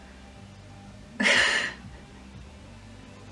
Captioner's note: small laugh